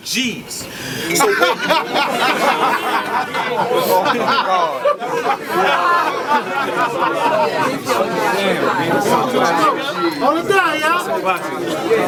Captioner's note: crowd Reaction